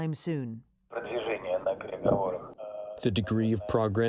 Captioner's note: speaking in foreign language